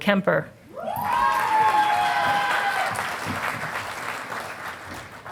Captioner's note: audience applauding